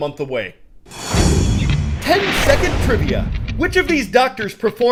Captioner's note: voice-over